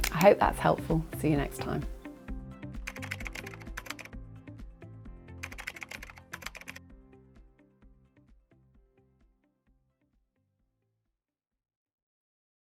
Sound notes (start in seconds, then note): 2.8 keyboard clicking